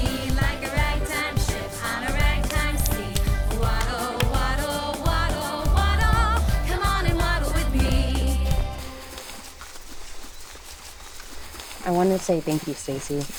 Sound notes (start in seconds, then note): 9.0 birds chirping; 9.0 grass rustling